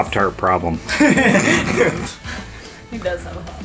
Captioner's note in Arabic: يضحك الجميع